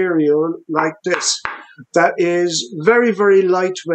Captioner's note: banging